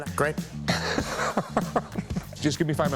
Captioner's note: laughs